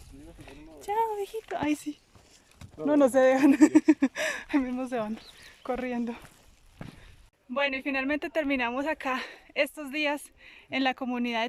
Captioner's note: laughs